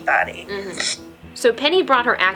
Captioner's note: sniffles